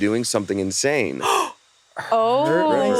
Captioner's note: gasps